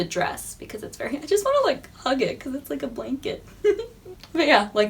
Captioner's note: giggles